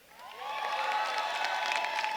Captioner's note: cheers